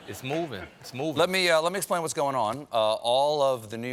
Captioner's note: laughter